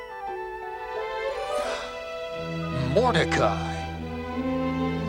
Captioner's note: King gasps